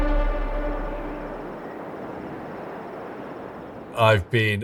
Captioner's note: air whooshing; tense music